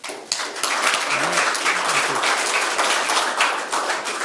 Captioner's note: crowd applauds